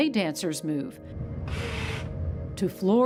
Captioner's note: device whirs